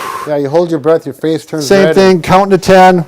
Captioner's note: blowing out air